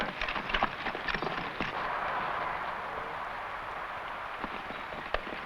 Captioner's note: horse hooves pattering